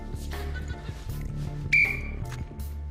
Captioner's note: blows whistle